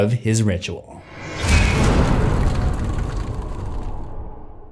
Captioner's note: impact